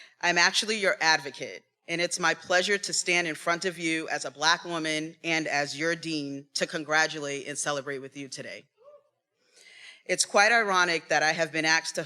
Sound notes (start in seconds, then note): 8.8 attendee cheering